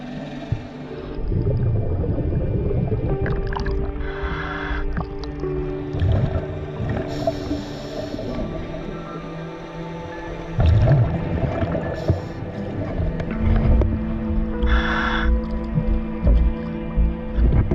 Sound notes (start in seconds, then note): 4.0 deep breath; 6.4 underwater sounds continue; 14.6 breathing